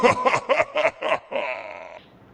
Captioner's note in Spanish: risa maligna